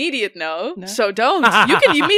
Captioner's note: laughter